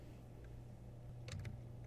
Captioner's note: typing